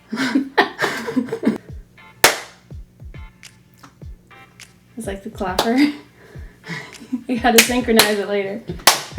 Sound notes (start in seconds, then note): 2.2 hands clapping; 8.7 hands clapping